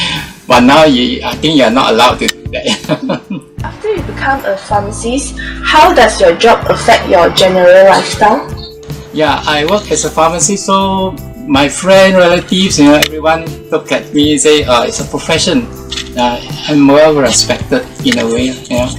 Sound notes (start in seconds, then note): 2.5 is laughing